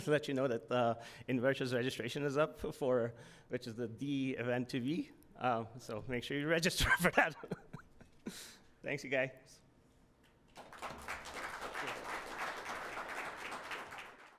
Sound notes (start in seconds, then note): 6.8 chuckles; 10.5 crowd applauding